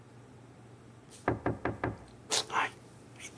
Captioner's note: knock on the door